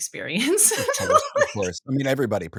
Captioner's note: laughing